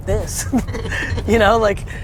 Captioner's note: laughs